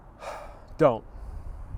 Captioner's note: sigh